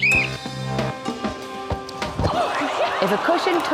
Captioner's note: blows whistle